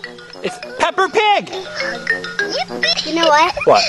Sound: voiceover

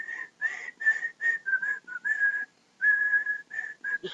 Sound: whistle sound

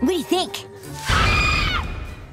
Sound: screaming

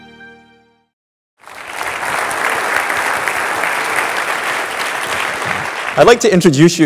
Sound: applause

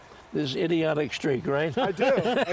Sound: laughs

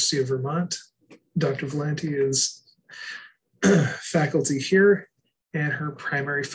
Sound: clears throat

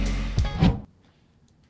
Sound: swipe

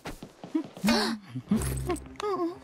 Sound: gasps

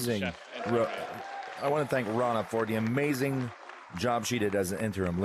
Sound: speaking french

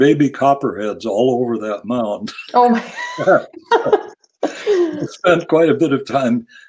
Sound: laughs

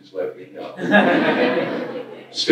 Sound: laughter

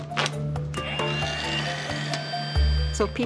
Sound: machine whirring and beeping

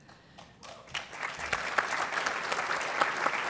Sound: applause

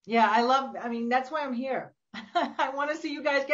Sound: laughs

